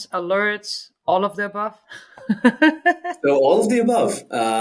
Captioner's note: laughs